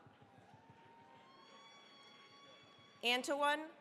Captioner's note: cheering, applause